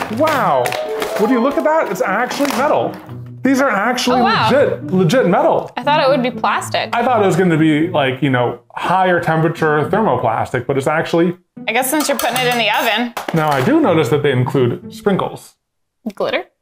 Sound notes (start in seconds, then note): 11.8 metal dings